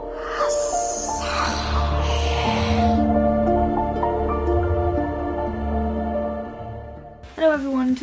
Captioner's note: Parseltongue